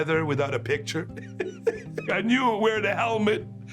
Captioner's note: laughs